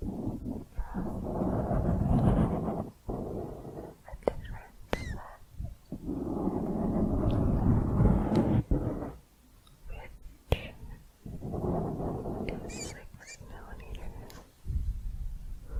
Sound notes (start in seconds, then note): 6.3 dense mic scratching; 14.2 mic scratching